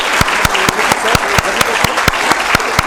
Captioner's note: applause